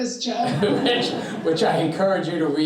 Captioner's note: all chuckling